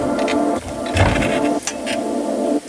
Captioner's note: bike thumping; rack squeaks